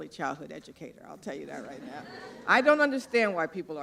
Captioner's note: laughter